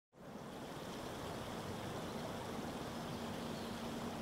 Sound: water gurgling

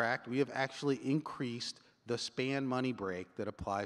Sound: none

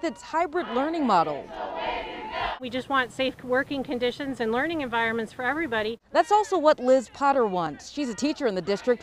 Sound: chanting

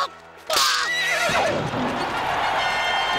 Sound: grunting; neighing

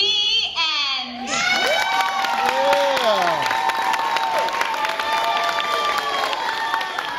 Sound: clapping and applause

